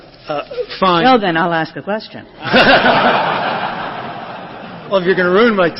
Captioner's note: laughter